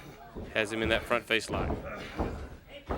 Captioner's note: crowd chatter